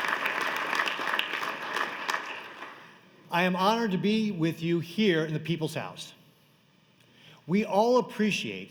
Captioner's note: applause